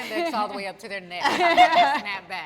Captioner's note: all laugh